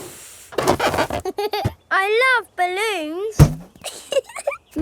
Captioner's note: chuckles